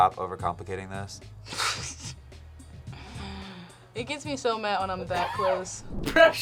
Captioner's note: laughs